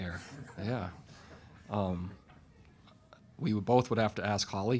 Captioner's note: chuckling